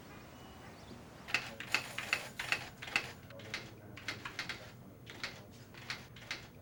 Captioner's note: typewriter typing